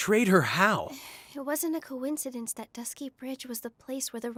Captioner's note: sigh